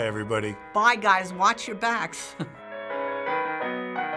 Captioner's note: chuckles; ragtime music